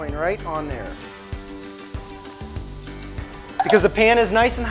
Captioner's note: meat sizzling